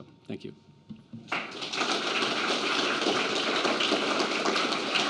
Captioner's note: applause